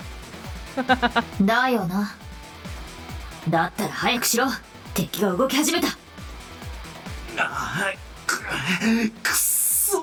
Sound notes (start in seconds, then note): 0.7 chuckles